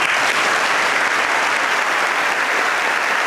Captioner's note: clap